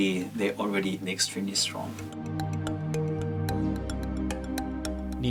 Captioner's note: voiceover